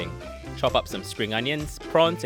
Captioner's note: voiceover